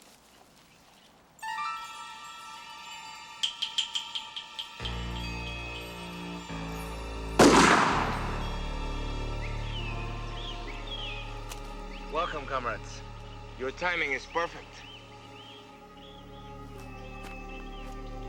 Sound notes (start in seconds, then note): 1.8 dramatic music; 7.4 gun firing